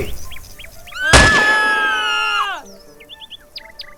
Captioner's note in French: Cris et coup de feu